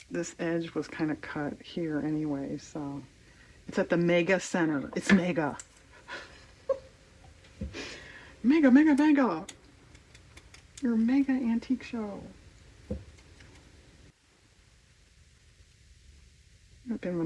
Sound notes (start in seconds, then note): 5.9 laughs